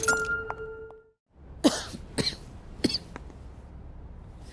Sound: coughs

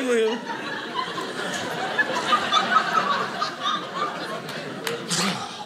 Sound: audience laughing

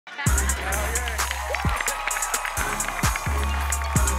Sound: cheering, applauding

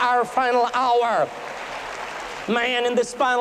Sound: applause

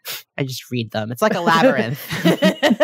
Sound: laughing

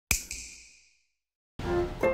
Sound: snap

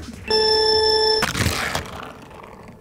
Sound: timer drones; wheels whirring

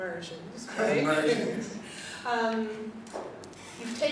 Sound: laughing

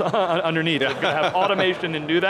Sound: laughs

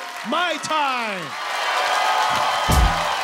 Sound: audience cheers

